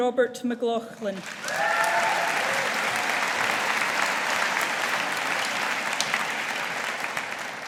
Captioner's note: audience applauding